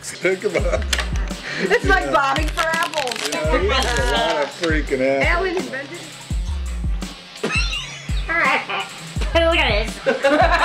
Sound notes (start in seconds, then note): 7.8 laughs; 9.9 all laughing